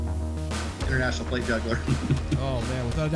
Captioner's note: laughing